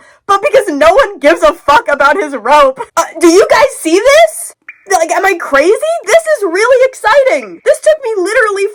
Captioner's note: cave dripping